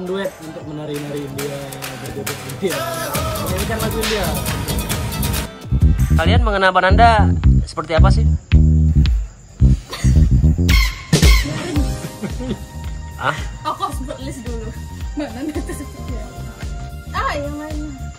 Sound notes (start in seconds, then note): 11.4 chuckling